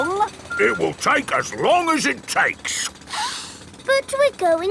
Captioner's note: sniffs